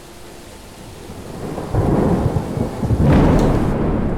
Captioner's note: storm raging